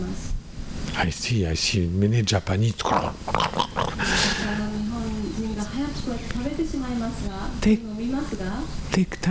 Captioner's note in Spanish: hace sonido de comer rápido